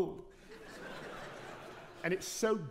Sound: audience laughing

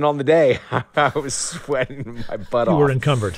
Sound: laughter

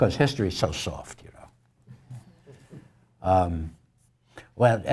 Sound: laugh

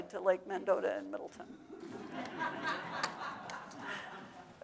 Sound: audience laughing

